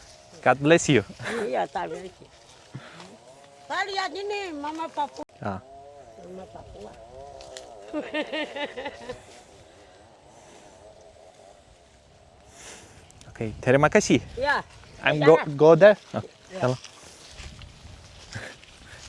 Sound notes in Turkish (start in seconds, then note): 7.8 kahkaha